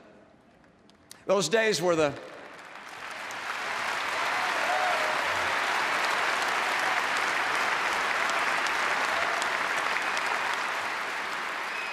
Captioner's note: applause